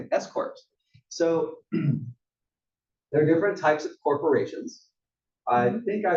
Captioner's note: cough